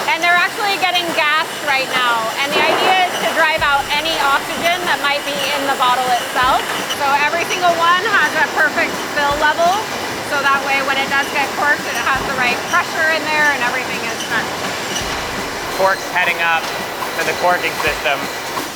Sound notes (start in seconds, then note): 14.7 machines blaring